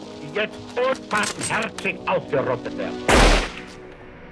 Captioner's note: guns click; gun fires